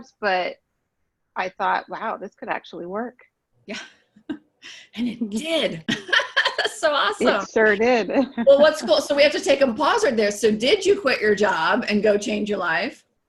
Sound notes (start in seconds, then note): 5.8 laughter